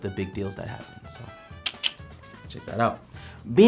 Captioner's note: clicks tongue